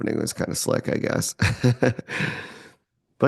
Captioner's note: laughs